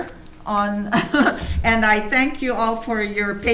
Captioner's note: chuckles